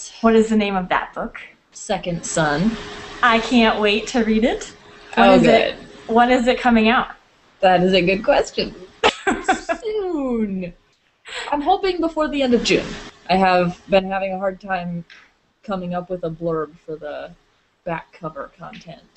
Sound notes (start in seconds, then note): 9.0 laughing